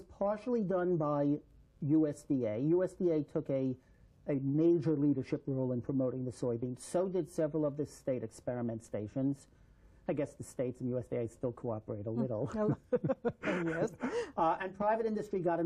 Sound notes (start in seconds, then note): 12.4 laughter